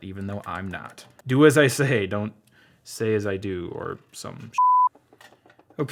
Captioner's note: beep